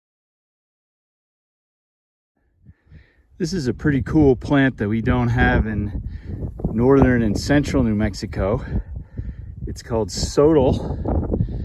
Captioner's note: wind blowing